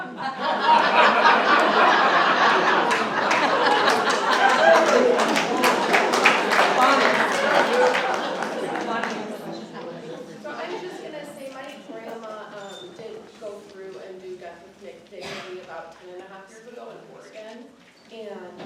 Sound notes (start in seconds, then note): 0.2 laughter; 2.4 applause